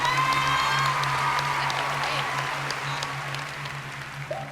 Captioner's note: audience applauds